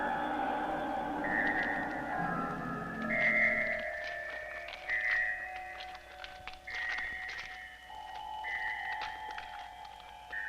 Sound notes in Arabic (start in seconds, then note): 3.3 خطوات قوية; 3.3 موسيقى مخيفة